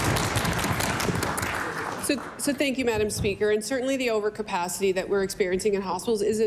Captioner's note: applause